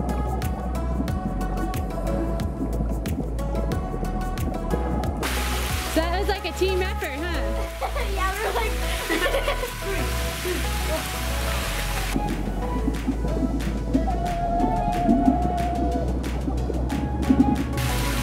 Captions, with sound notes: (upbeat music) That was like a team effort, huh? (laughing) - Yeah, we're like...